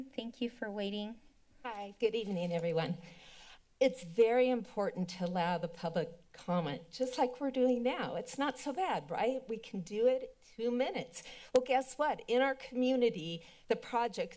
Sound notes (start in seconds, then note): none